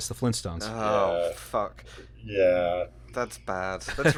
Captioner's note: laughter